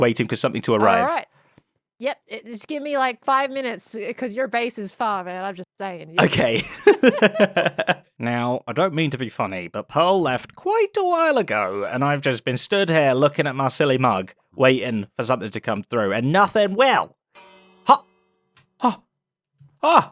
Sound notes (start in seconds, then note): 6.2 laughs